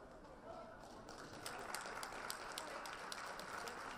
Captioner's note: audience applause